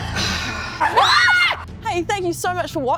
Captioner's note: terrified scream